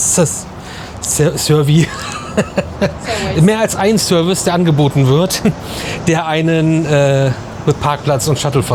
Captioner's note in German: gelächter